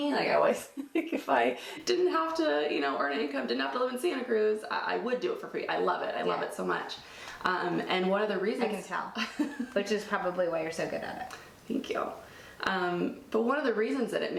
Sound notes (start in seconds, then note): 0.9 laughs; 9.1 laughs